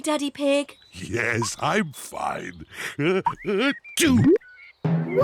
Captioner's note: sneezes